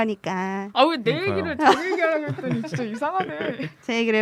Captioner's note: 웃음